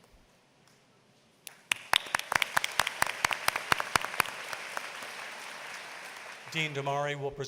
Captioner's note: applause